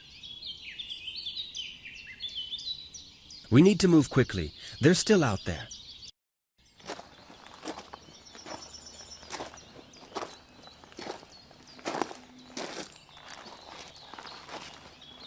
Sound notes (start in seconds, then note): 6.8 shoes shuffling; 9.5 birds chirping